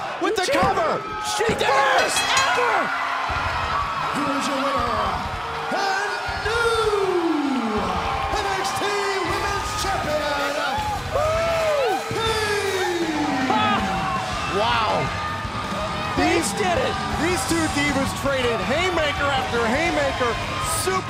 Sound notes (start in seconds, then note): 1.8 bell ringing; 3.6 crowd cheering